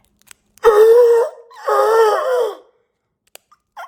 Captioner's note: Chuck gasping